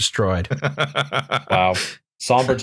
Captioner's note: laughter